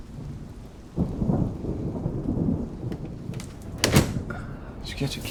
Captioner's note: thunder rumbling